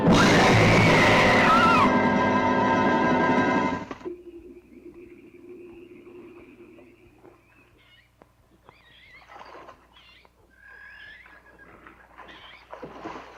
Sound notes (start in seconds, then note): 0.0 screams; 4.1 frogs croak and crickets chirp